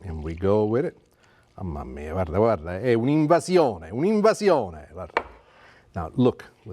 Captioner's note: speaking Italian